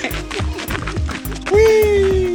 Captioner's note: laughs